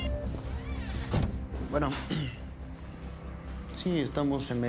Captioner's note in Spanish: carraspea